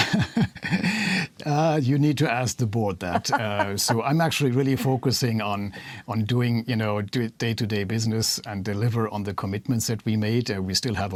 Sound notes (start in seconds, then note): 3.1 laughter